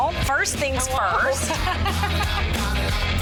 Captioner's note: laughing